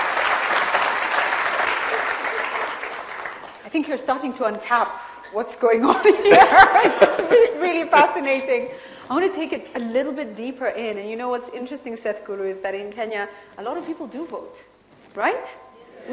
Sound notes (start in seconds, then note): 6.1 both laugh